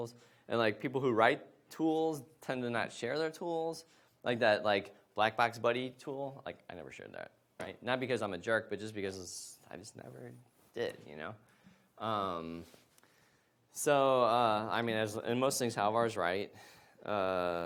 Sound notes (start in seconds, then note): none